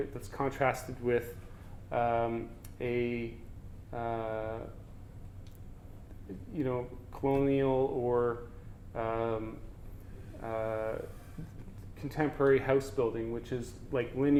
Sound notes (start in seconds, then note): none